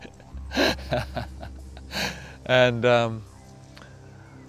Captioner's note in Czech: Eshua se směje